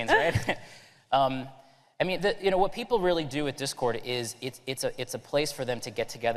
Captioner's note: laughter